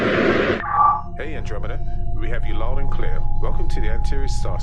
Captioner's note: intercom